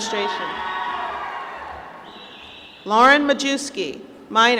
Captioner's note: applause